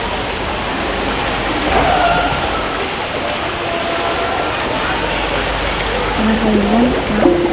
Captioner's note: distant thump, voices